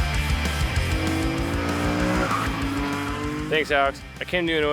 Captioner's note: energetic music; car engine revving